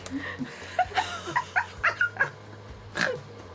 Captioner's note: laughing